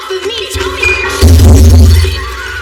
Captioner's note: glass s shatters